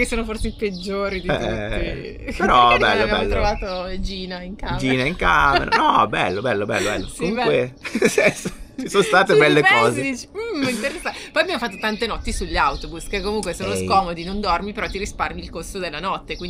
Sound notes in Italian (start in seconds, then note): 7.8 risate